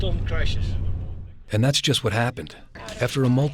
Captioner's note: voiceover